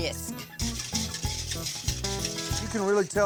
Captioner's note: stirring